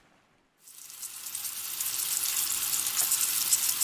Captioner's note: sizzling pan